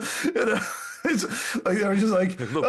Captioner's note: laughs